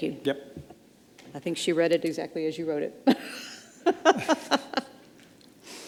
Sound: laughs

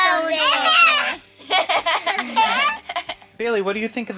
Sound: all laughing

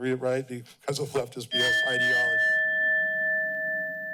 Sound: bell dings

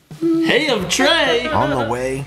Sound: laughing

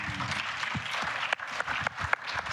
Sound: applause

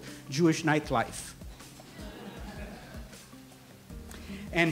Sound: laughter

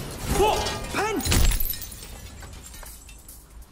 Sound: thud

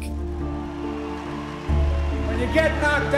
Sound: crowd cheering

